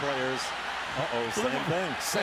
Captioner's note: cheering